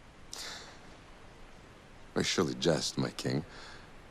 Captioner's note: laughs